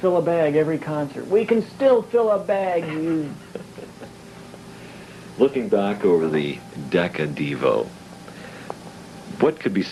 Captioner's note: laughs